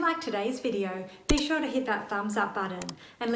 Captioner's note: cursor clicks; icon clicks